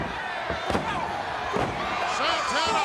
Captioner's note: foot stomping